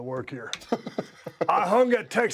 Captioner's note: laugh